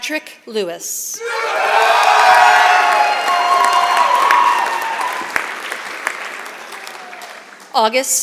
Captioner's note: applause